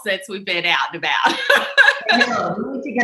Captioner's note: laughs